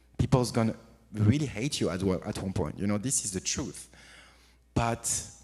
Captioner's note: none